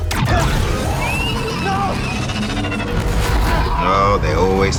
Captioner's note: weapons exploding